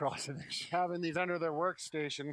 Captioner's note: chuckles